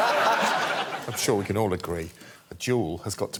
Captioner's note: laughter